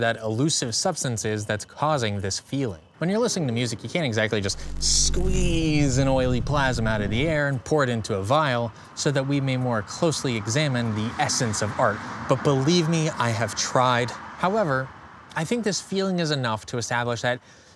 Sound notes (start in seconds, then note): 4.4 electric buzz, whoosh; 10.2 car passes